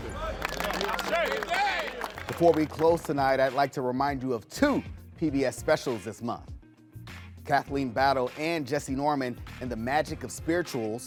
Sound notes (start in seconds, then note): 1.8 audience applauds